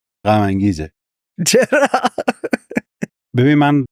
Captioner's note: laughs